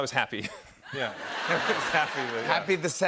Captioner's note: laughter